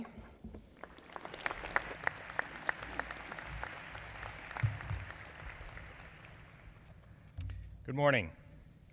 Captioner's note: applause